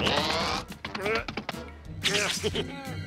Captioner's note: straining, laughs